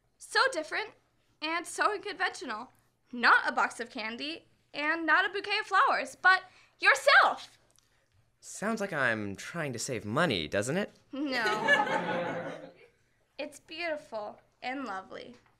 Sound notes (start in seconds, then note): 11.3 laughter